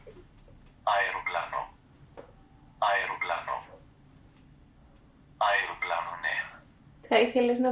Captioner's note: achmet – artificial male voice